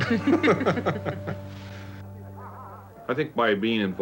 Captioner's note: both laughing